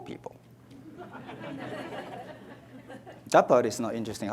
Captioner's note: audience laughs